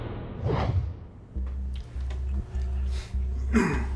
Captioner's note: coughs